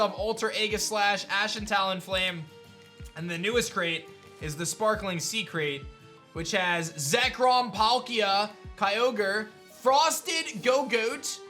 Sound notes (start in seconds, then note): none